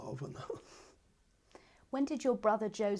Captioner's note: laughs